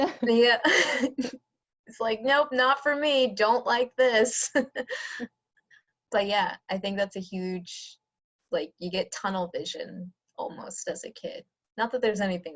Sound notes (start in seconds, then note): 0.0 laughter; 4.8 laughter